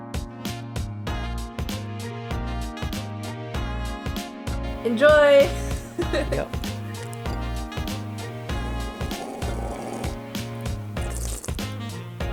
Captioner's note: slurps